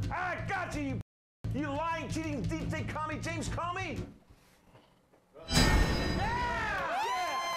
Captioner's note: jail door slamming